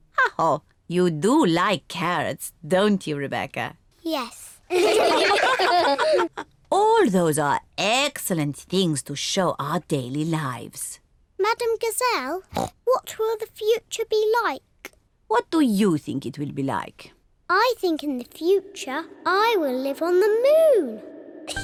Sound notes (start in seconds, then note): 4.7 all laugh